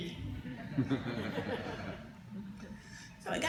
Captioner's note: laughter